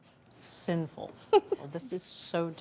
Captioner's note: laughs